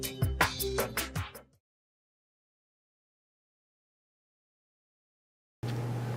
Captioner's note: silence